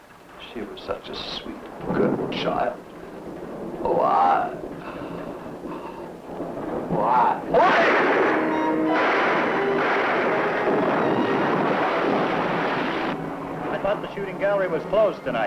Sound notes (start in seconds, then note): 7.5 gun firing; 8.8 suspenseful music; 11.8 gun firing; 11.8 thunder crashing